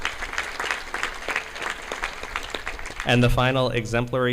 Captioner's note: audience clapping